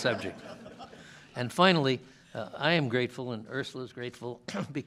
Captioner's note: laughter